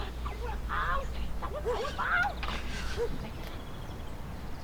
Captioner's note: voice rises in anger